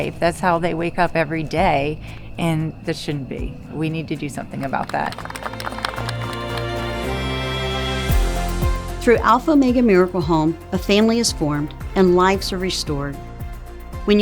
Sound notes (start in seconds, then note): 4.8 crowd applauding; 6.9 inspiring music